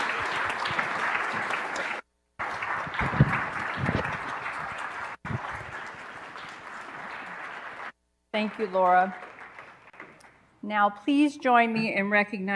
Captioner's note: applause